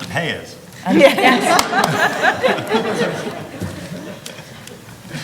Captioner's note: attendees laughing